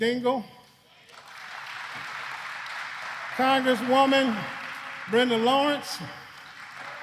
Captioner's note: applause